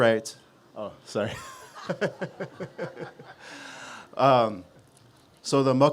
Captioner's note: laughter